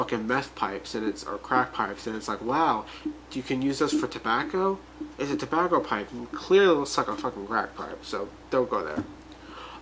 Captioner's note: saying that sarcasticly